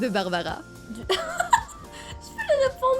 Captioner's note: laughs